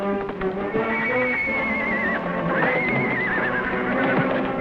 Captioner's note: whinnying